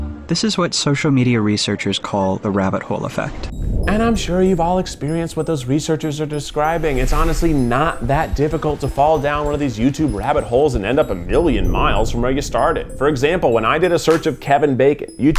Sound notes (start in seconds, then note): 3.4 air whooshes